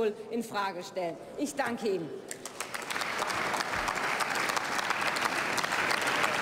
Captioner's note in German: Beifall beim BÜNDNIS 90/DIE GRÜNEN